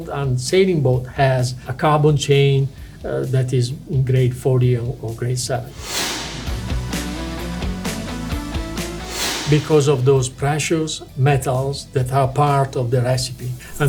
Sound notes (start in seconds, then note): 5.7 lively music; 6.0 screen whooshing